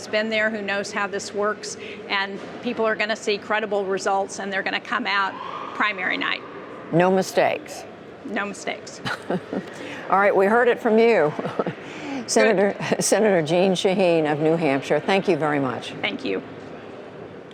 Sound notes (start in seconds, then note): 9.0 laughter